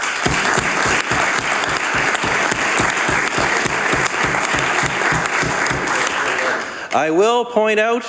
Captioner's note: some Applause